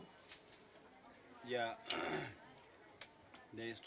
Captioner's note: clears throat